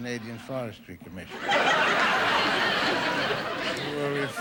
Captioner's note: audience laughing